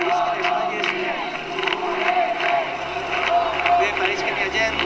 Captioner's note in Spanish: Ruido de manifestantes